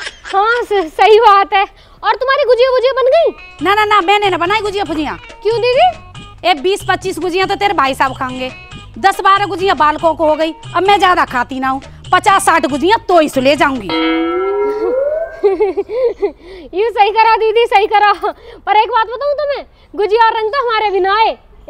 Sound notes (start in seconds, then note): 15.1 giggling